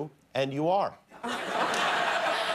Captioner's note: laughter